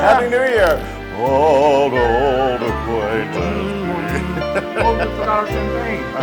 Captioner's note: laugh